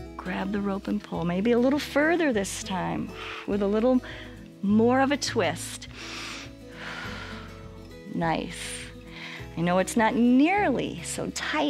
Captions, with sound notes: Grab the rope and pull, maybe a little further this time with a little more of a twist. [inhales and exhales] Nice, I know it's not nearly so tight